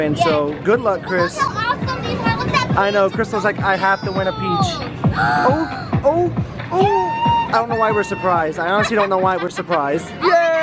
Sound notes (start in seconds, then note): 5.1 gasps